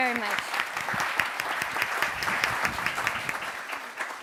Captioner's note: audience applauds